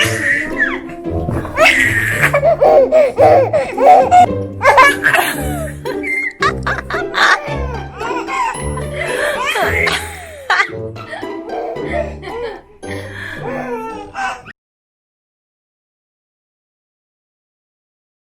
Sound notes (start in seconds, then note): 0.0 baby laughs; 7.8 laughs